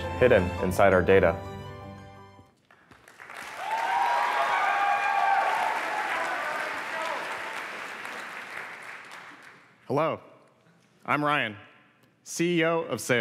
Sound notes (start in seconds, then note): 2.6 applause